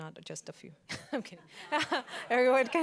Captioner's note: laughs